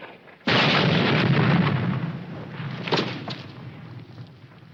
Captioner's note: wind rustling; bomb exploding